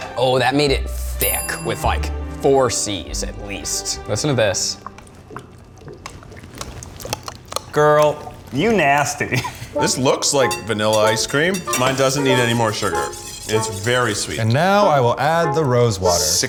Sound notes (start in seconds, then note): 4.7 liquid sloshing